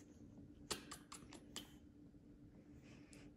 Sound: kissing Sounds

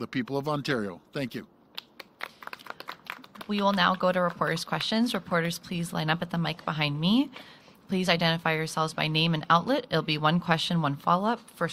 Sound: applause

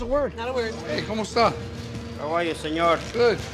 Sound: speaks in foreign language

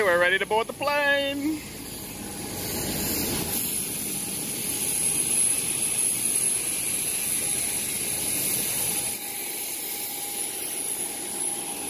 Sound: engine Noise

